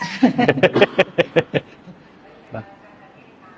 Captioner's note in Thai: เสียงหัวเราะ